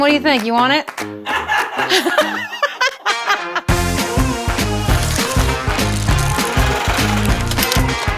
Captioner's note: laughter